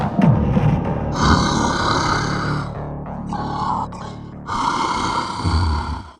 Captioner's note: creature breathing heavily